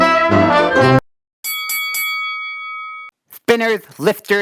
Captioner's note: bell rings